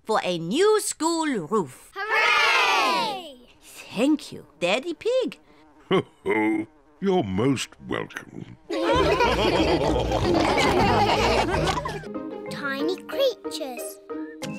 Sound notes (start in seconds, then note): 5.9 chuckles; 8.6 all laughing